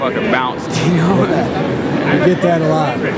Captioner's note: laughs